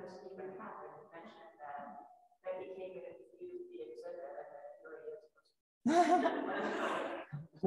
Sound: speaks faintly

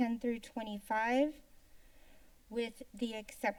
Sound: inhales

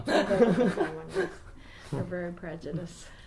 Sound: laughs

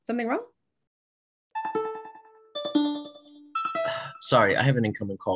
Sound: call ringing

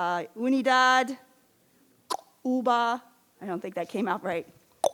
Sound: speaks in foreign language

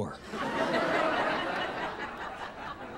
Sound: laughter

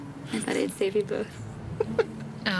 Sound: laughs

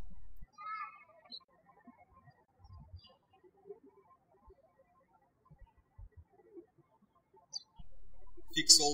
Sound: birds chirping

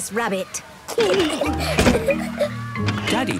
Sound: giggling

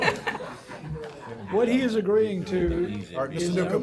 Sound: laughter

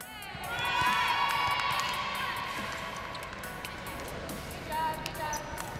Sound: volleyball players cheer

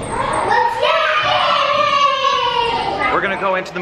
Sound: cheering

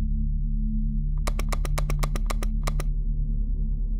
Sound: button clicking

